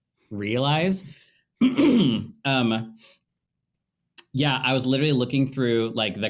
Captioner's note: clearing throat